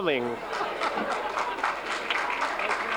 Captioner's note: applause; laughs